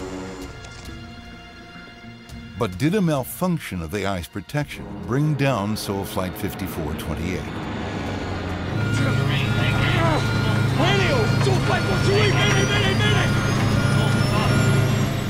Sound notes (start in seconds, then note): 0.2 suspenseful music; 7.4 engine roaring; 8.9 alarms beeping; 13.4 alarms beeping